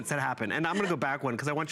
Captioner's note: laughter